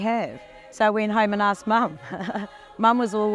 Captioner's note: laughs